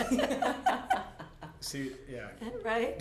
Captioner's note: laughter